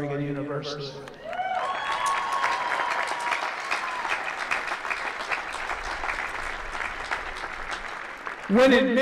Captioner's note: applause